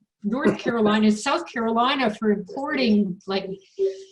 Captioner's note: laughing